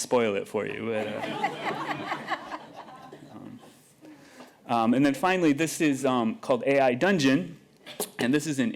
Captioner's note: laughter